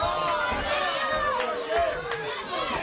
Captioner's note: crowd chatter; crowd cheering